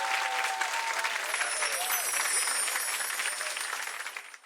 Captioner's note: applause